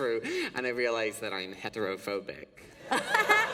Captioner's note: laughter